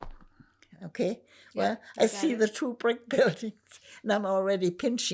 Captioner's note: laughing